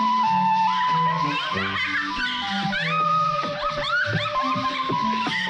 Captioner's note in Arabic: جونيل تضحك